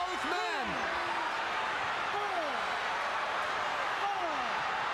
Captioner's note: crowd chattering